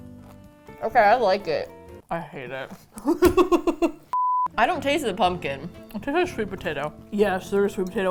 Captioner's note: laughs